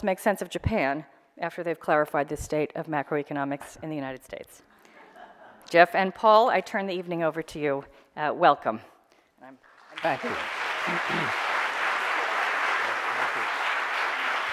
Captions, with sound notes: make sense of Japan after they've clarified the state of macroeconomics in the United States. Jeff and Paul, I turn the evening over to you. Welcome. (applause) - Thank you.